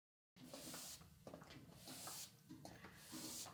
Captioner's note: sweeping